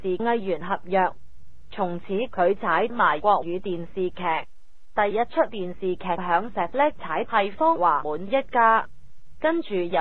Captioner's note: Mandarin